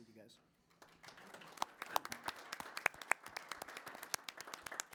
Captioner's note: applause